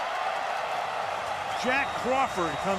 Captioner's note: cheering